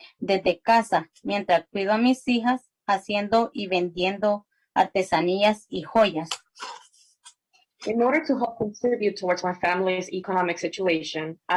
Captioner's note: spanish